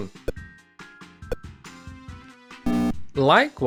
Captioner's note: pong sounds